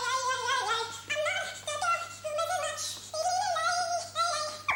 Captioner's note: humming